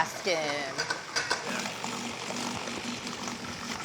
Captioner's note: whirring